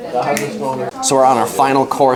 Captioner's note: snaps